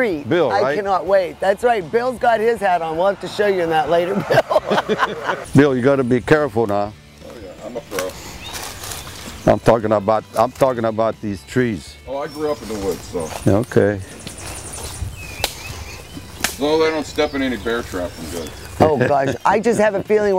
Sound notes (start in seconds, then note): 4.0 laughing